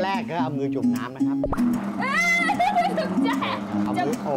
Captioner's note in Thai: เสียงร้อง